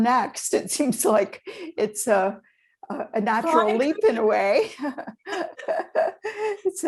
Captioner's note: chuckles